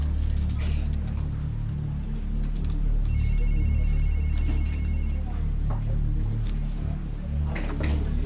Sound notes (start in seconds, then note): 3.1 phone ringing